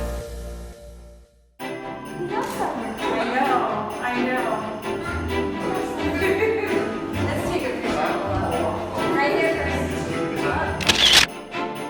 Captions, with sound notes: -He loves summer. -I know, I know. [laughs] -Let's take a picture, Olaf. -Right here. [camera shutter sound]